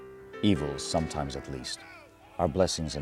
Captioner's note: voiceover